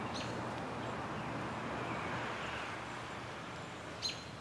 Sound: bird chirping

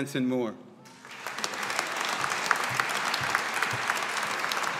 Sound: audience applauding

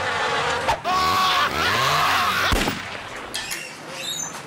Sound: screaming

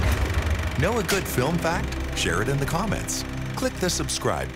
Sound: film projector whirring

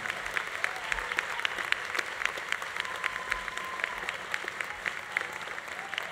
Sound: audience applause continues; audience cheering continues

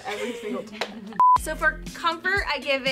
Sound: laughing

